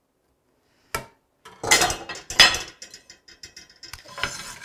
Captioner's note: tool clatters